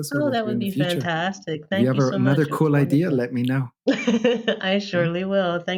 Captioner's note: laughter